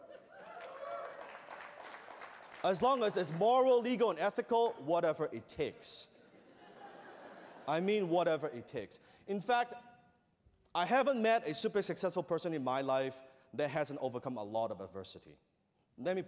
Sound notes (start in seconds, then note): 0.2 applause; 6.3 laughter